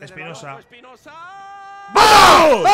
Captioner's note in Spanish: gritan